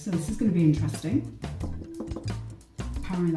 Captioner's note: knocks on pumpkin